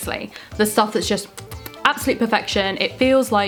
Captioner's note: kisses